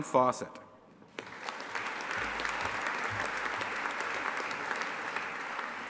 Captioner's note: audience applauding